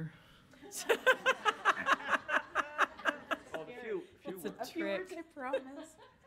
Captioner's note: audience laughs